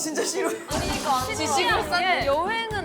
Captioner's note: shouting as one / She hates museums!